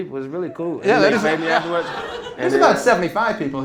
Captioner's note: laughter